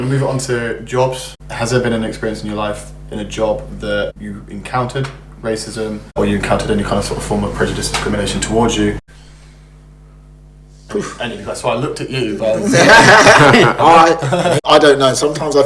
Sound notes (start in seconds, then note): 12.5 laughs